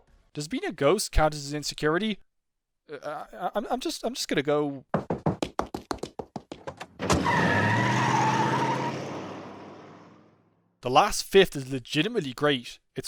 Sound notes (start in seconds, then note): 4.9 rapid walking; 6.7 door slamming; 6.9 car driving off